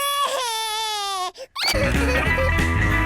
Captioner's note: cries